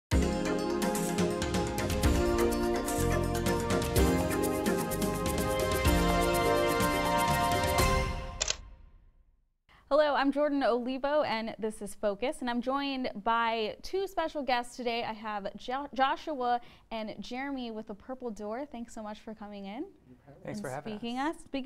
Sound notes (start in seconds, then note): 0.1 uptempo music; 8.4 camera shutters